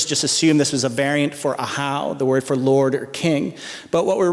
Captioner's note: non-english speech